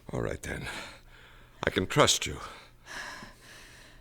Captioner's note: sighs